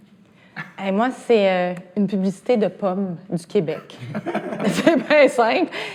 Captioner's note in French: rires